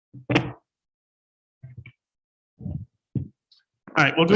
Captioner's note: microphone is knocked